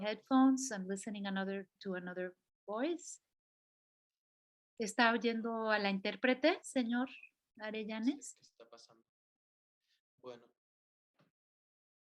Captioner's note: non-english speech